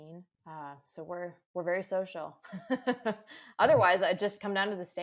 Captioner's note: laughs